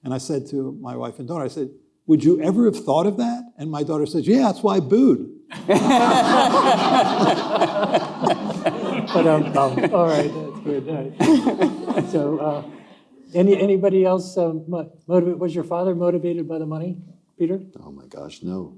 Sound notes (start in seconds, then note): 5.5 audience laughing